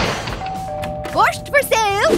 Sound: doorbell rings

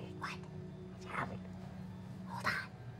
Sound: mutters

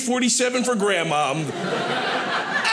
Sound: audience laughing

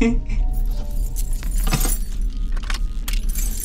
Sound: keys jingling

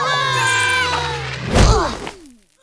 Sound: screaming; crashing

